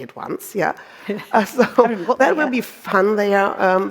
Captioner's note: both chuckling